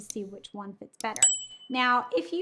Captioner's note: bell dings